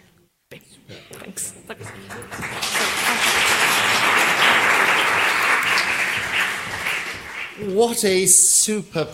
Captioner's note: applause